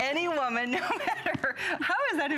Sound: laughter

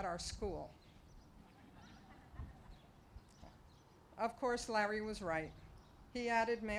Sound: laughter

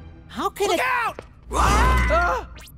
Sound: screaming

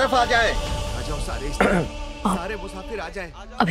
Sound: clearing throat

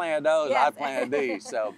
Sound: laughs

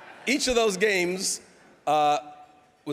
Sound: audience laughing

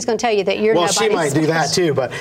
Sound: laughs

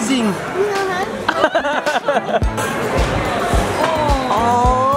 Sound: laughing

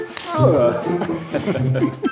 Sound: laughing

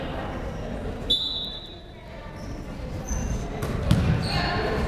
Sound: whistle blowing

